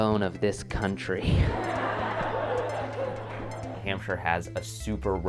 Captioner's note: laughter, clapping